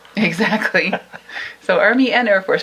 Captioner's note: both laughing